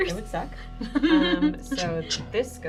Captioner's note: nervously giggles